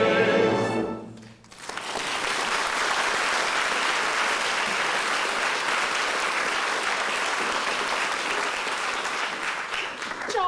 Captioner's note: applause